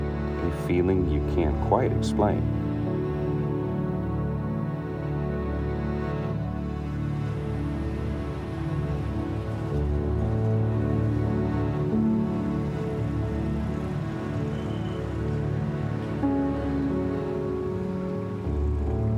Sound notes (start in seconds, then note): 2.4 machinery Whirring